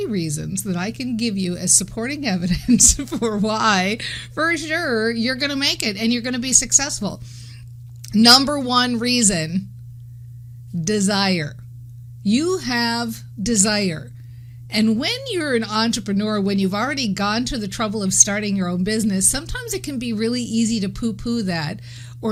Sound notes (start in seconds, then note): 2.5 laughing